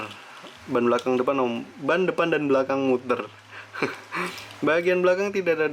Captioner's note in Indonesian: tertawa